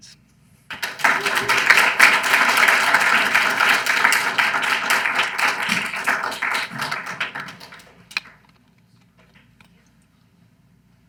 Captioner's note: audience applauds